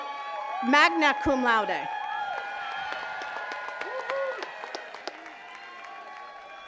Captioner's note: attendees cheers and claps